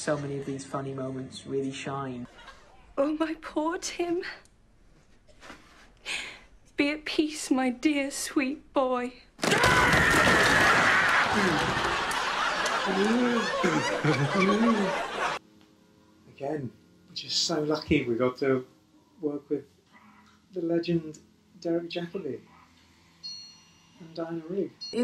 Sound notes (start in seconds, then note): 9.4 screams; 10.7 laughs